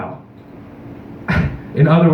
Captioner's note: chuckle; scoffs into microphone